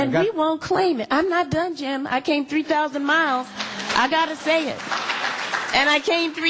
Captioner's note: applause